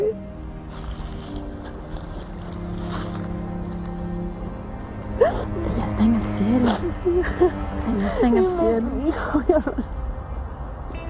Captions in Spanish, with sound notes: PERÓNAME, MAÁ. PERÓNAME. [LLORA]